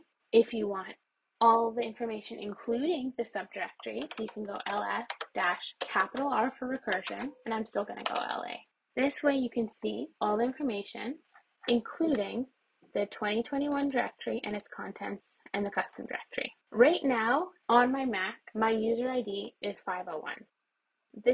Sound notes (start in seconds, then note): 9.8 mouse scrolls; 11.4 mouse scrolls more; 13.5 mouse clicks